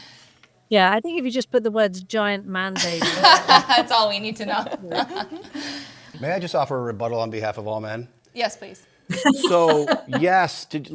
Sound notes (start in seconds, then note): 2.8 panelists laughing; 9.1 Jojo laughs